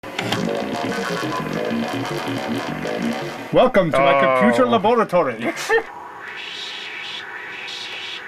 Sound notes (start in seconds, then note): 5.5 laughs